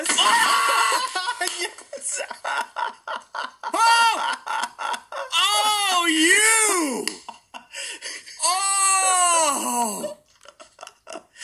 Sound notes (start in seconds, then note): 0.2 screams; 2.9 laughs; 3.7 gasps